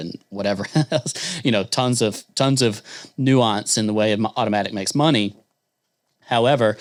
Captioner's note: chuckles